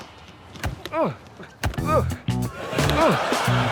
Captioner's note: grunting